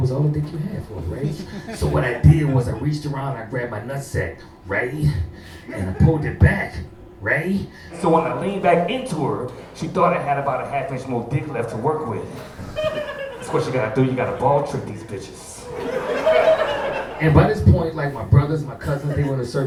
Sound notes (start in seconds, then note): 15.7 audience laughing